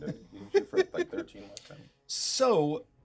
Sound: speaker laughs

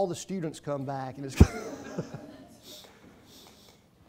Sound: laughing

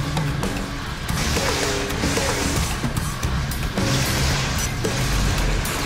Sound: techno music; electricity banging

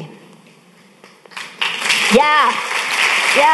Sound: audience applauding

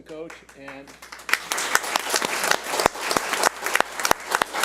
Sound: audience applauds

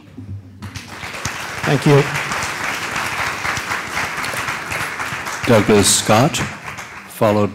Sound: applause

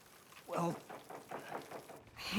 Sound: knocking

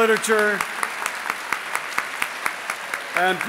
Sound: audience applauding

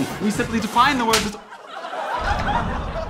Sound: slap

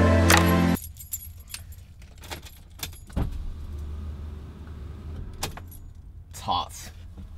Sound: window Opening

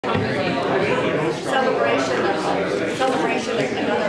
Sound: audience chatting

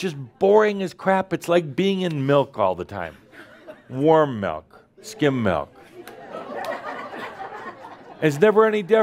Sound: more laughter

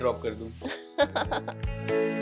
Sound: laughing

